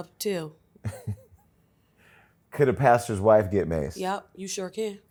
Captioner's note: laughs